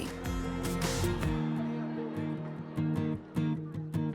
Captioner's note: hallway chatter